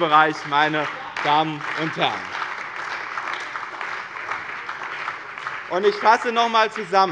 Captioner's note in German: Beifall bei dem BÜNDNIS 90/DIE GRÜNEN und der CDU